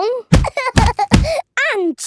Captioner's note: banging